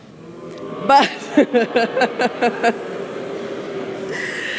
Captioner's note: booing